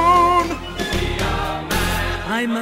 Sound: background voices

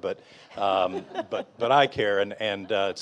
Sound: audience and panelists laughing

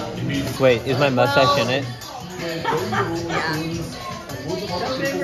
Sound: mom laughing

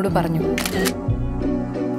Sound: camera clicks

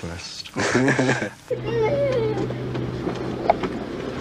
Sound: baby crying

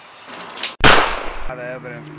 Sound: gun Shot

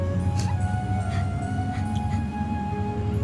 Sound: sobs

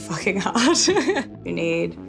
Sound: laughs

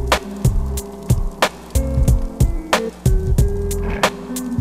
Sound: fire crackling

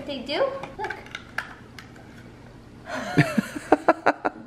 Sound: laughing

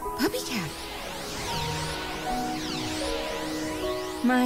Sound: beam noises

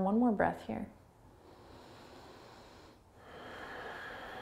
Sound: inhaling; exhaling

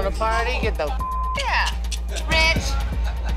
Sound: beep

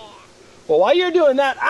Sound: voiceover

